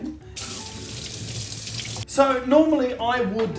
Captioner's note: water running